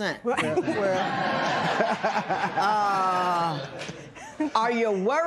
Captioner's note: laughter